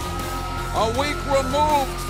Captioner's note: crowd cheering